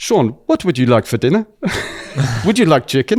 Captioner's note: laughs